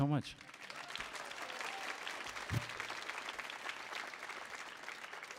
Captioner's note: audience applauds and cheers